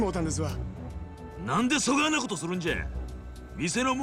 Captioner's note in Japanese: none